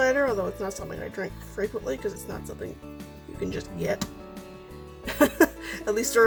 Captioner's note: laughs